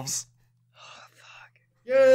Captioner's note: quietly